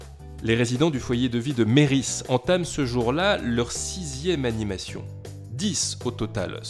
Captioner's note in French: Voix off